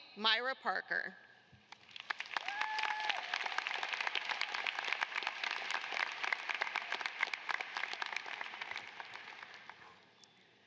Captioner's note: applause